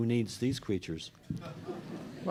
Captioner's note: laughter